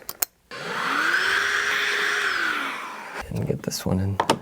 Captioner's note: drilling